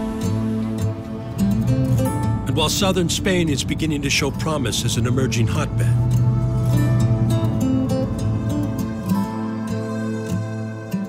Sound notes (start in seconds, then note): 6.7 vehicle engine revving